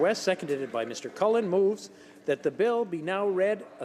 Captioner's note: some Applause